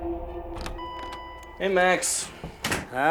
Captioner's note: door bell dinging